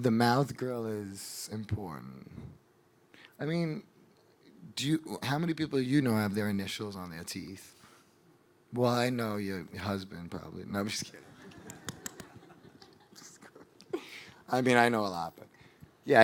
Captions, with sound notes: The mouth grill is important. How many people do you know have their initials on their teeth? Well I know your husband probably, no I'm just kidding. (audience laughing) I mean I know a lot but.